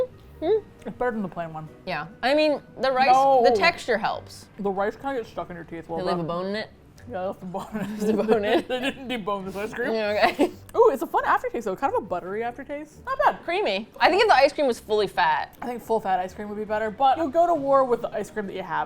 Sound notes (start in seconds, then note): 7.7 laughs